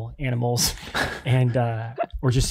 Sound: chuckles

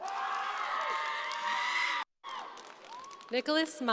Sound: crowd cheering

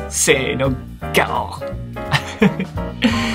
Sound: lion roar in Japanese

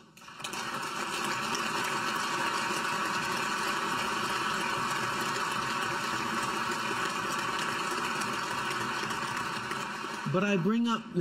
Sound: applause

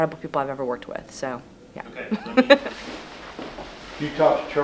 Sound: chuckles

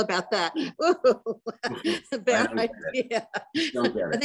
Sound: laughs

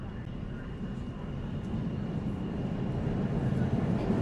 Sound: subway rumbling

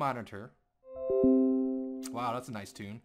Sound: Windows 10 sound effect

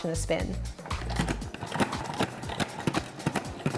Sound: handle clicking; upbeat music

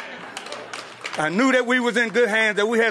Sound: applause

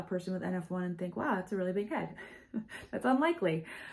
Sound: chuckles

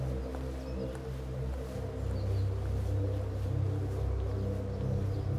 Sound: footsteps approaching

